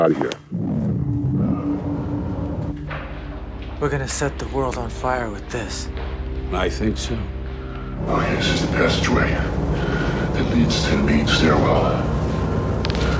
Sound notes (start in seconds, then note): 8.3 deep voice speaking